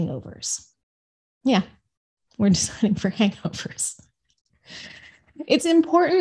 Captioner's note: laughs